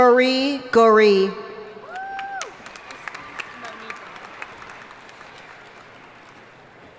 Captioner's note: audience cheering and applauding